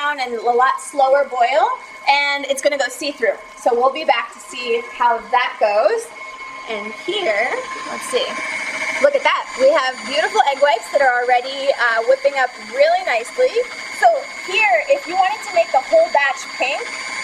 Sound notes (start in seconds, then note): 8.8 mixer revving